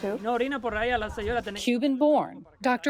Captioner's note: speaking in foreign language